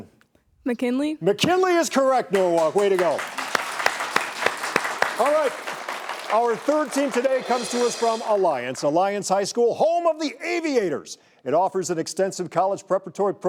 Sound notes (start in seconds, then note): 2.0 audience applauds